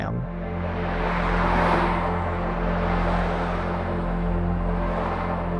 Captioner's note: traffic whirring; bright music continues